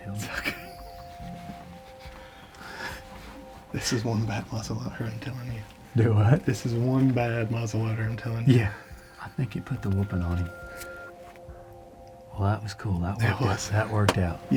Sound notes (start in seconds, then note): 1.5 laughs